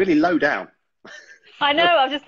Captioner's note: laughing